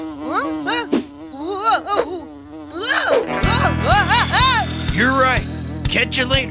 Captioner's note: screaming